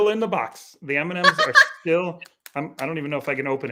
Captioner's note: laughing